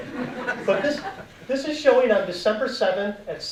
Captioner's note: audience laughing